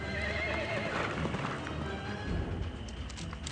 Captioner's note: horse neighing